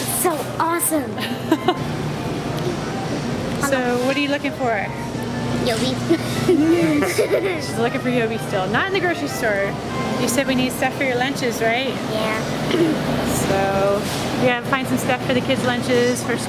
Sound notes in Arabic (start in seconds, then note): 6.1 يضحك